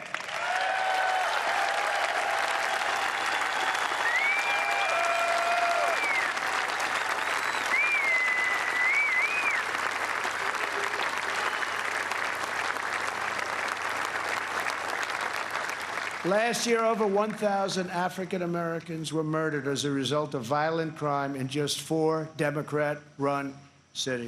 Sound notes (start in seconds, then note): 6.1 applause